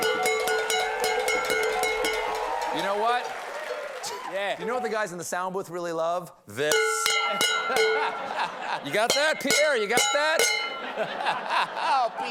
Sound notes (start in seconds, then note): 10.7 laughter